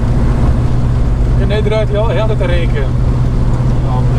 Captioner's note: lower revs